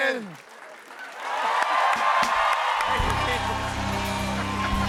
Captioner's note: cheers and applause